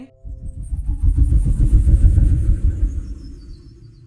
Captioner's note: muffled helicopter